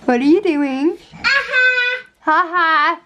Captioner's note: laughing